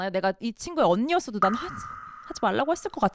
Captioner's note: choked up